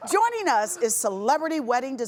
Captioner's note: laughing